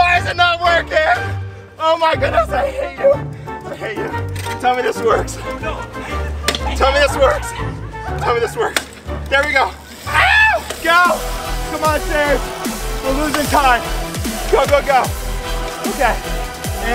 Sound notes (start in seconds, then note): 10.0 screams